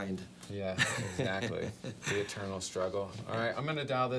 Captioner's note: laughs